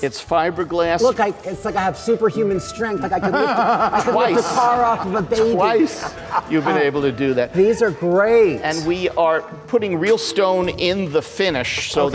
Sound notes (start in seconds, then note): 5.6 audience laughs; 5.6 laughs